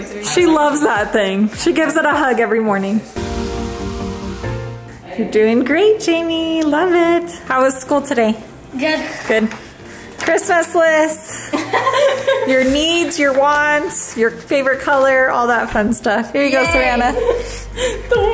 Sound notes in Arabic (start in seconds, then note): 11.4 تضحك